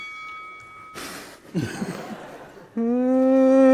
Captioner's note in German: Stöhnen, Lachen; Summen